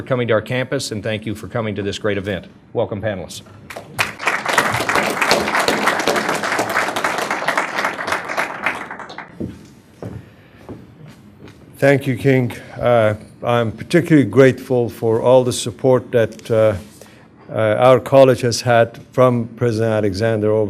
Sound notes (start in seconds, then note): 3.7 applause